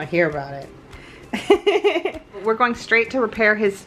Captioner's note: laughs